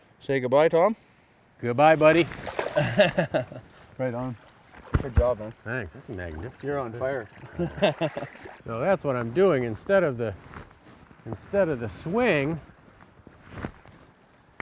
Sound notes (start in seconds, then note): 2.6 laughs; 8.0 laughs